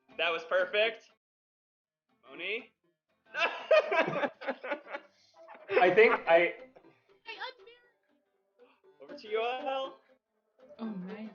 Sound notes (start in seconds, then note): 3.4 laughs